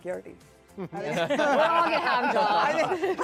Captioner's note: panelists laughing